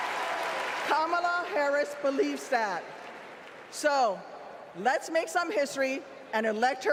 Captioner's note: applause